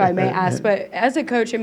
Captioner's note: laughs